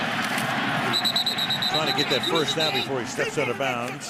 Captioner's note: whistle blows